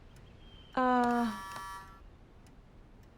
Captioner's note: buzzer buzzing